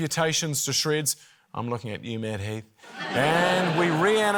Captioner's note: laughter